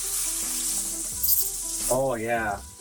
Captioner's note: sizzling